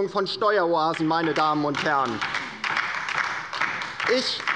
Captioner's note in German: Beifall bei der LINKEN